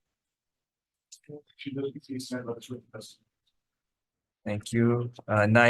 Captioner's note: attendee faintly speaks